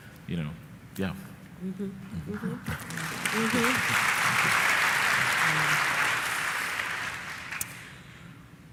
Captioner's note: applause